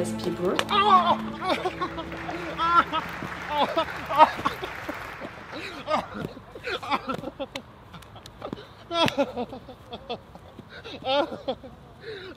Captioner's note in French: Cris de douleur